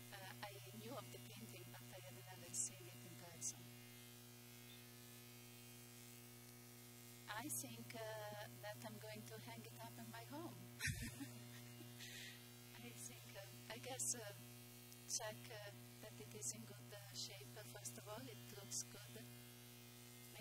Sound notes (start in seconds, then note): 10.8 laughing